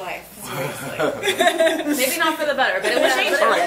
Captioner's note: laughs